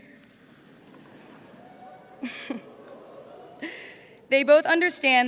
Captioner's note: laughter